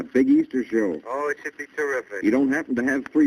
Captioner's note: on phone